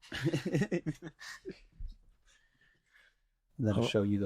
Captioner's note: laughing